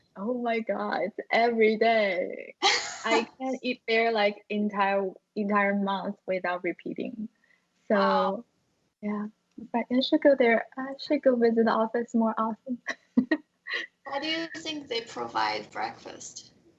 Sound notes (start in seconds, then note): 12.7 chuckles